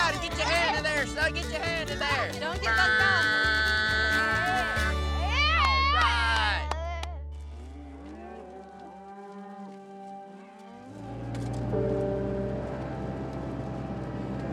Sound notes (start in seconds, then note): 3.6 imitates buzzer sound; 5.3 claps; 7.5 mooing